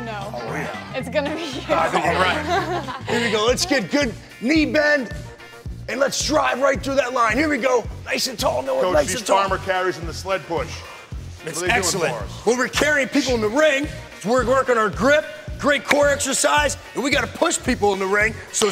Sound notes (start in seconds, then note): 1.3 laughing; 3.3 girls laughing